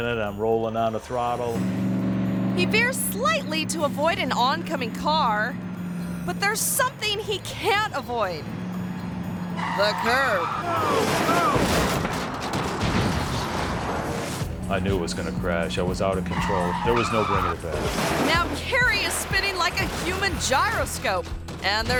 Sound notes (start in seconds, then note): 10.3 tire squealing; 10.9 monocycle crashing